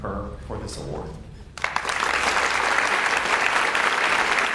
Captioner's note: audience applauds